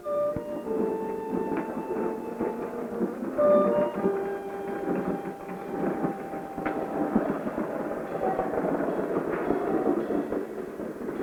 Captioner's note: sounds of wheels rolling along as scoots down the hall